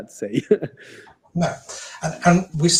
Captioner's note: laughs